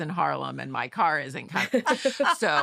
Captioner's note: laughter